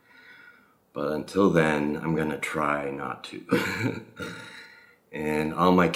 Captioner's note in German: lacht